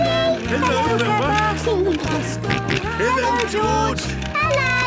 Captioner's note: George giggling and snorting